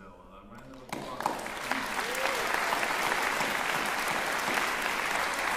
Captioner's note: cheering, applause